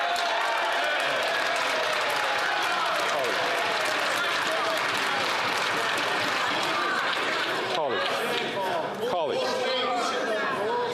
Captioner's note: chatter